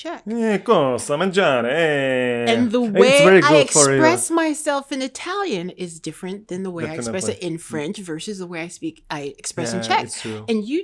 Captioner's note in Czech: mluví italsky